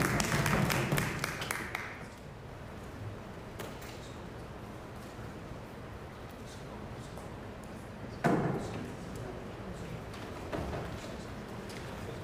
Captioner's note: applause